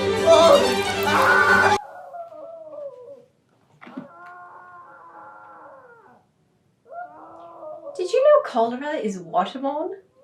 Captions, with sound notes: (Muffled Screaming) Did you know cholera is waterborne?